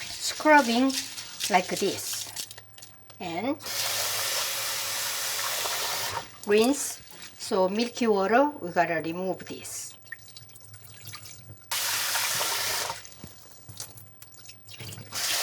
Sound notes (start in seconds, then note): 0.0 rice rattles; 3.8 water running; 11.9 water running